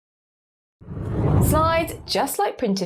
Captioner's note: graphic whooshes